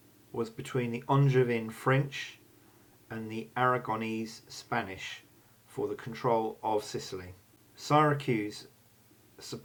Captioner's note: Spanish